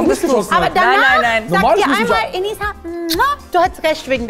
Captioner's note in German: Kusslaut